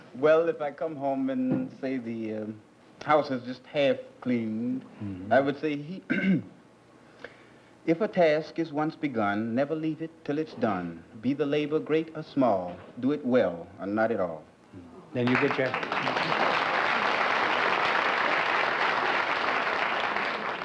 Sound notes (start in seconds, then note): 15.2 applause